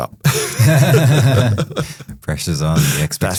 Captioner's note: laughing